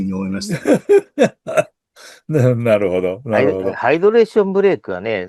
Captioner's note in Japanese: 笑い